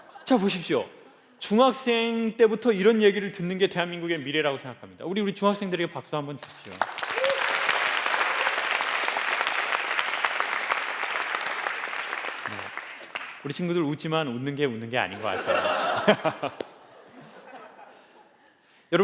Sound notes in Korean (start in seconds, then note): 12.1 박수; 18.2 웃음